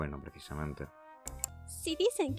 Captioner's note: click